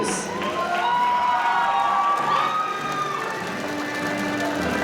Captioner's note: audience cheering